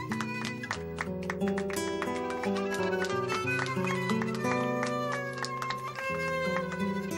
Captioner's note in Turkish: alkiş sesleri̇